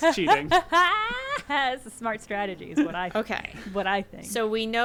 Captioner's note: laughs